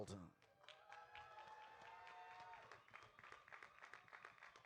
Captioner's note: audience applauding